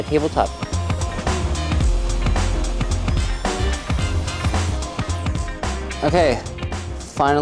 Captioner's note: mellow music; saw buzzing